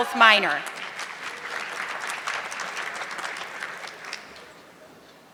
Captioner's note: audience clapping